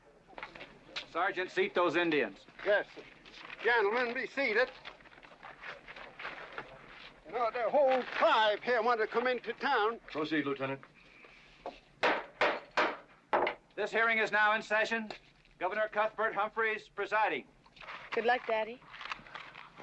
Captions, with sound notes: - Sergeant, seat those Indians. - Yes, sir. Gentlemen, be seated. You know, their whole tribe here wanted to come into town. - Proceed, Lieutenant. (gavel banging) - This hearing is now in session. Governor Cuthbert Humphrey is presiding. - Good luck, Daddy.